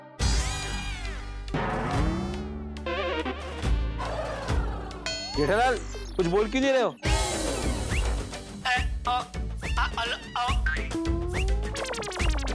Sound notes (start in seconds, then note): 0.2 comical music; 8.6 stammering